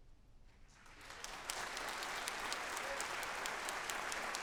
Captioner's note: audience applauds